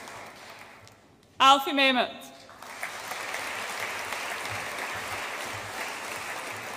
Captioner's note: audience applauds